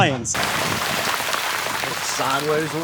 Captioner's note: rain crackles